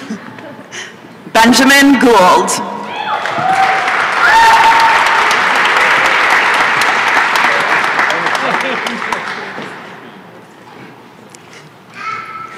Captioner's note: applause and cheering